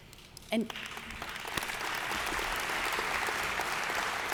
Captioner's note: audience applauds